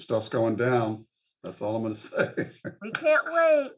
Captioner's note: laughs